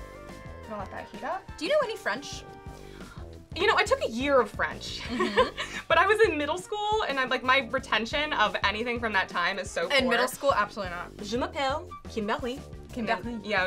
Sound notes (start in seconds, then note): 5.0 laughs